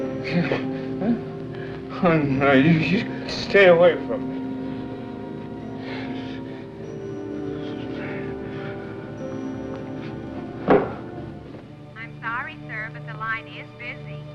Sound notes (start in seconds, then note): 5.9 breathing Heavily